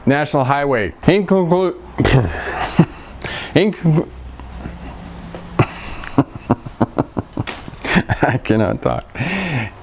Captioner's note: laughing